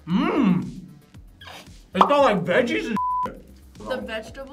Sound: beep

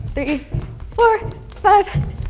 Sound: jump rope slaps floor

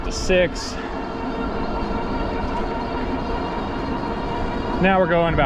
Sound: motor whooshing

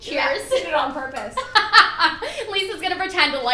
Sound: laughter

